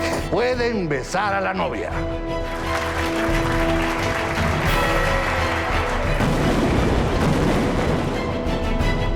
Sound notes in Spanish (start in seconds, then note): 2.4 Aplausos; 6.1 Explosión